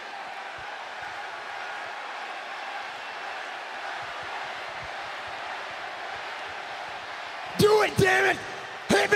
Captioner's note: applause